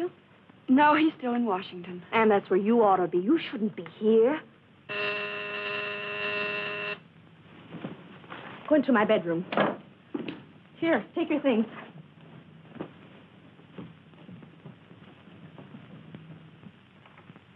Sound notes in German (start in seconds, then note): 4.9 buzz